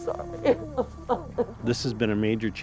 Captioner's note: crying